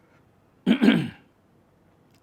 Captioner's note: clears throat